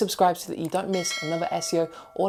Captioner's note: dinging